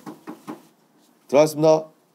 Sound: knocking

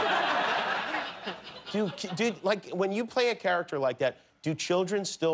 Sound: laughter

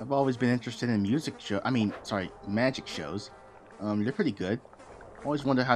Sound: fly noises

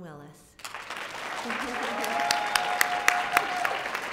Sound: audience clapping

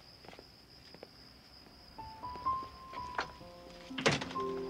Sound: gentle music; door clunking; car door clunking

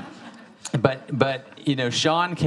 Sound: audience laughing

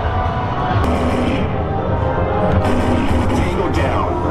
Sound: gun firing

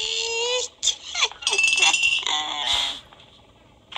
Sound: maniacal laughter

